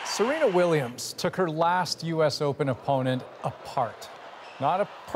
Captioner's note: cheering